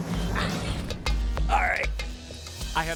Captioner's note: strained